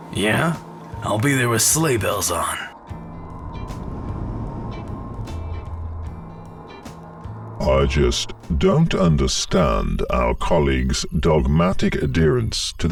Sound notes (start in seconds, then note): 3.3 space ship humming; 4.8 ambient music